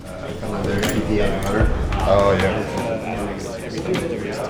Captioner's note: group chattering